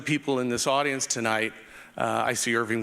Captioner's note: none